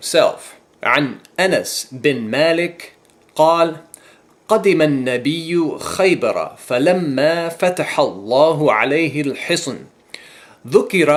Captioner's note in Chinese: 念阿拉伯语